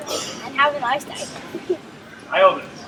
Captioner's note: chuckles